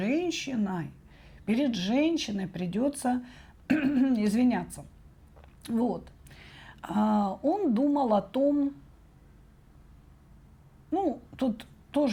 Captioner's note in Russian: откашливается